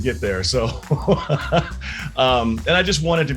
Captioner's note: laughing